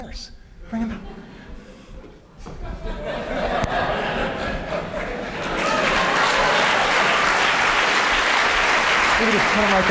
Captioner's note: applause; laughter